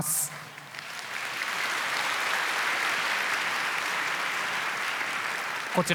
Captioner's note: applause